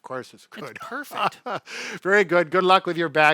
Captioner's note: laughs